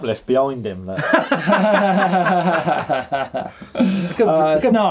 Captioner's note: all laughing